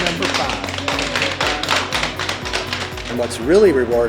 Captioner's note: group clapping